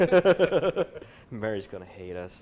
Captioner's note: laughter